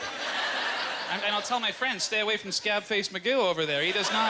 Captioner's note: audience laughter